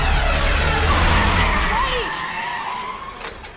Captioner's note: tires screeching